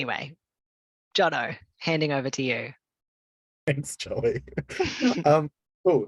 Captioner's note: laughter